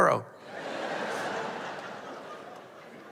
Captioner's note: laughter